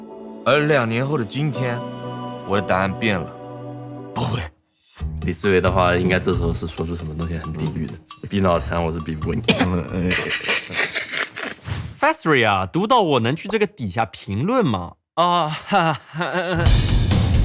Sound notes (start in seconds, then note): 10.0 laughters